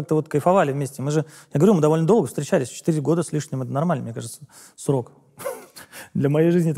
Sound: chuckles

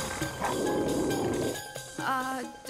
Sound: roaring

